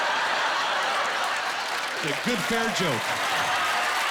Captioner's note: cheering